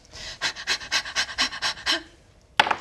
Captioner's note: nervous panting